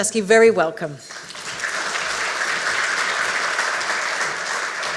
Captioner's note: audience applauds